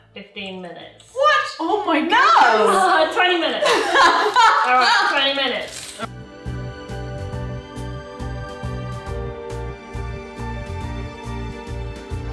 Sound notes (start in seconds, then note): 3.6 laughing; 6.1 festive music